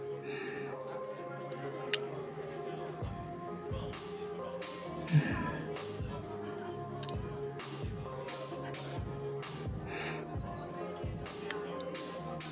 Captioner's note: kissing